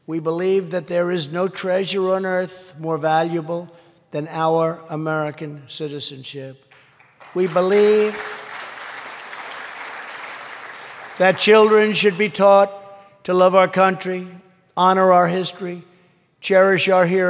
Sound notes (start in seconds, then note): 6.7 applause